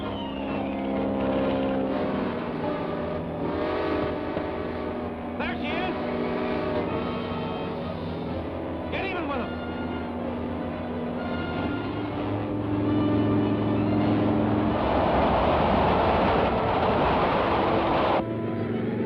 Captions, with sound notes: (engine hums) (whistle toots) There she is! Get even with it! (engine hums) (train rattles)